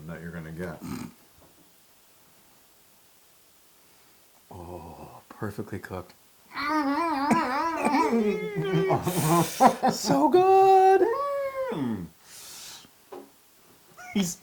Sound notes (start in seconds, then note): 6.5 laugh